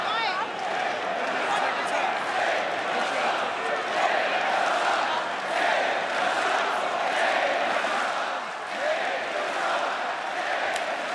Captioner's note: fans chanting